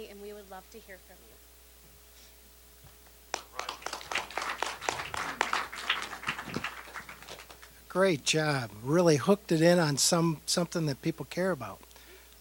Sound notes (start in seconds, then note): 3.3 applause